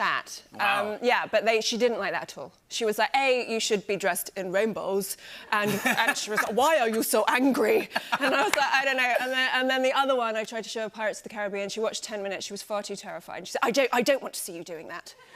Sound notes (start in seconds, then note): 7.8 laughter